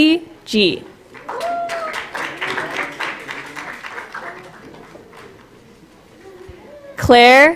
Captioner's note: applause